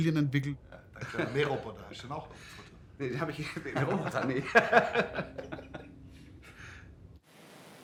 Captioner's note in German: Originalton: Unterhaltung, Lachen